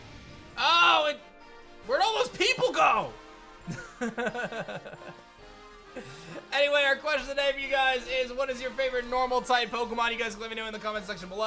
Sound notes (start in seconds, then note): 3.7 soft laughs